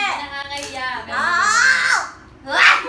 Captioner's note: gigil noises